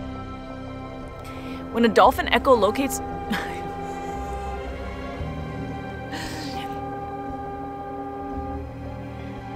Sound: instrumental background music; background horn noise interrupts; laughs; instrumental background music

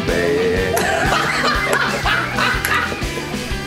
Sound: both laugh

